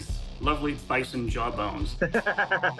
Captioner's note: laughs